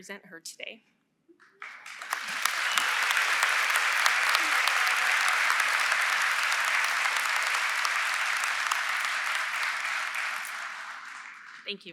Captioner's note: applause